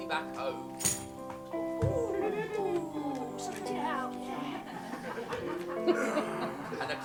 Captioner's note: something falling on the floor